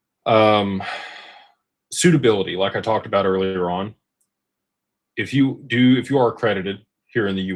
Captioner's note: sighs and gasps